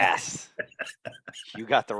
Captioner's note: laughing